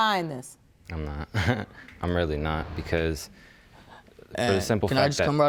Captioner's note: chuckles